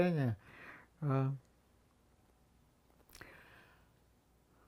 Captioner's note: pause 7 seconds